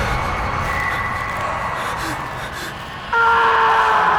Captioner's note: gasping; screams